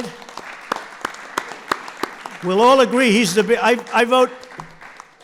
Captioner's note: applause